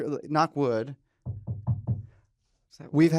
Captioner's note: knocking